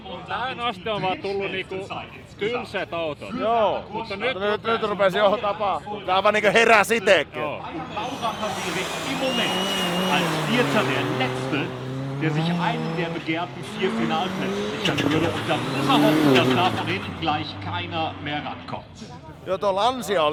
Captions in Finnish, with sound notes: ...Tähän asti on vaan tullu niiku tylsät autot. -Joo. -Mutta nyt- Nyt, nyt rupes johonkin tapahtuun. Tää aivan niinku heräs itekin. -[taustahälinää] -Joo tuo Lancia